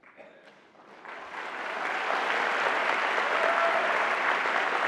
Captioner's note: applause